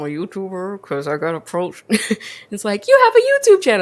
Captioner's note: laughs